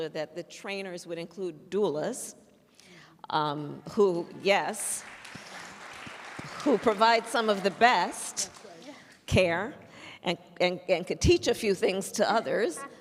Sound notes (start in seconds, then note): 4.8 applause